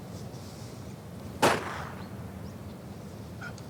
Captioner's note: gunshot